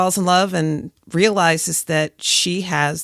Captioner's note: none